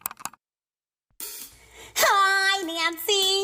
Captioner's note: mouse clicking